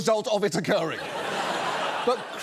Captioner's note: audience laughs